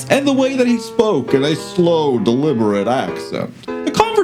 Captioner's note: adopts Western-ish voice